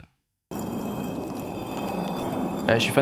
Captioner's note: stone sliding